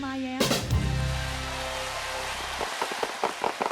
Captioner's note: people cheering